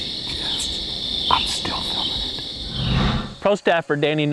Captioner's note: whispering